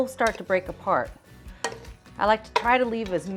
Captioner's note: spatula tapping